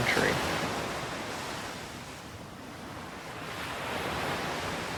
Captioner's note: water splashing